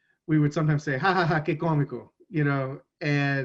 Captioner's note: speaks in foreign language